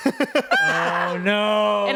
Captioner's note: screams